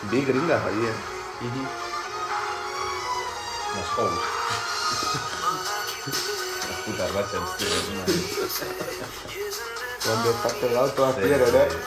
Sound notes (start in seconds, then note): 4.2 laughs